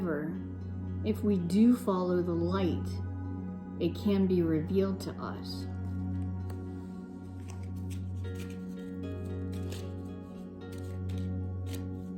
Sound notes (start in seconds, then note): 7.2 cards shuffling